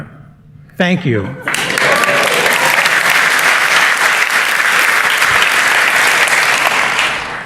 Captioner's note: applause